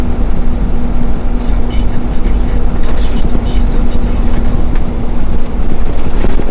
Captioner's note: gps talking